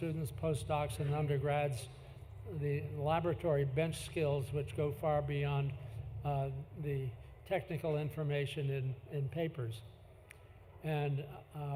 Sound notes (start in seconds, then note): none